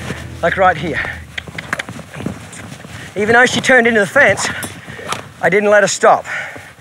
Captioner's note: mouth clicking